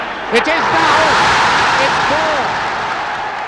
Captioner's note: crowd roaring